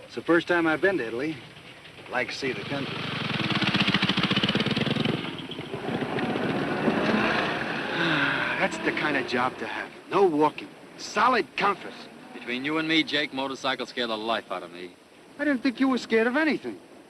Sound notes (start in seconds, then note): 3.1 vehicle running; 7.0 sighs